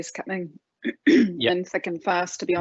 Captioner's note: clears throat